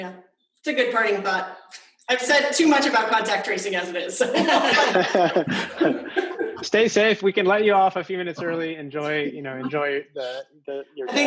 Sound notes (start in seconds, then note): 4.2 laughter